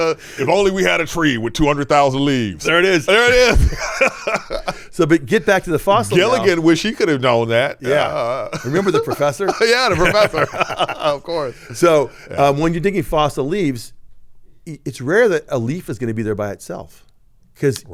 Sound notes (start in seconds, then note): 3.1 laughs; 10.7 both laughing